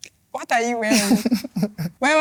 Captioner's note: laughs